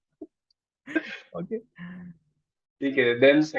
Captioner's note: chuckles